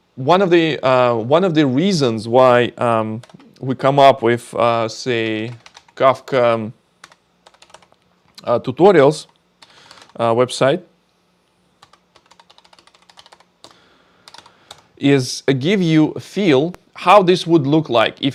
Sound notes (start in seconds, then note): 5.2 keyboard clicking; 11.8 keyboard clicking